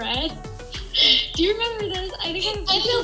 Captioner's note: laughing